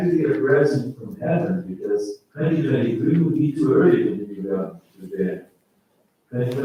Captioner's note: faintly speaking